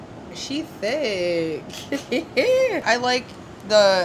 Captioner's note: laughs